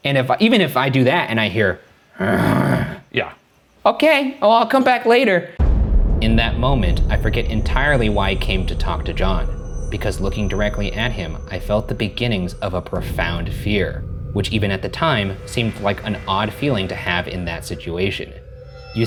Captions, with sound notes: And if I, even if I do that and I hear: (roaring) "Okay, well, I'll come back later." In that moment I forget entirely why I came to talk to John because looking directly at him, I felt the beginnings of a profound fear. Which even at the time, seemed like an odd feeling to have in that situation.